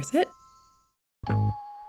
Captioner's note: bell sound, music rises